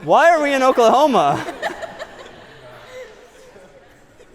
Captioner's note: laughter